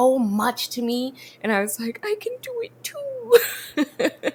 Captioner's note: laughs